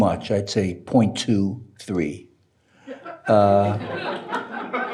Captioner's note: audience laughing